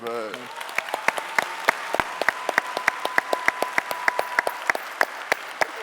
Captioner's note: cheering and clapping